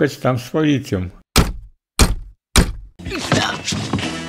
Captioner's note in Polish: Pukanie do drzwi